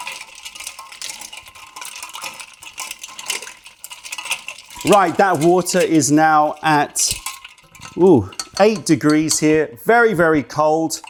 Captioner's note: stirring